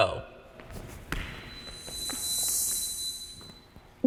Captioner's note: kids footsteps